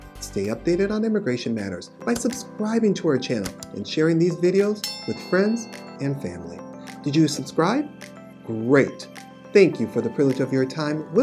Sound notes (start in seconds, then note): 4.7 bell chimes